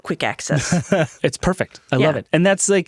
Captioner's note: chuckles